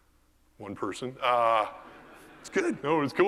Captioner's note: laugh